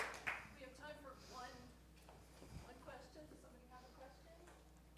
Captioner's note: applause